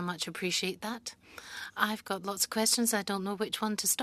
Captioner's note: speaking French